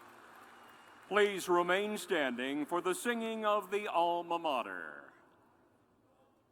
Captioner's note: cheers and applause